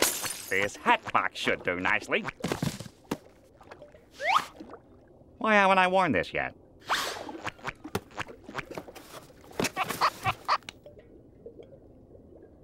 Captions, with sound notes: This hatbox should do nicely. Why haven't I worn this yet? [squeaking]